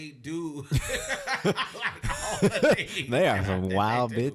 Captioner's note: podcasters laughing